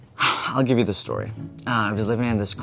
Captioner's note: sighs